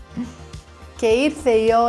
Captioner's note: laughs